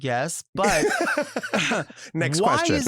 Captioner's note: laughs